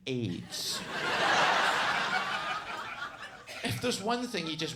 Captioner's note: audience laughs